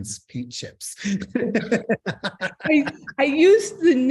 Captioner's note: chuckles